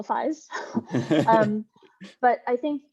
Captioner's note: laughing